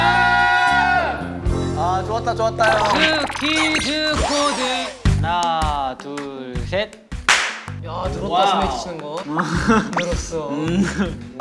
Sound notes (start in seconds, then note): 6.8 clap